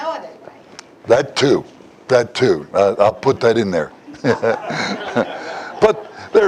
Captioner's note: Смех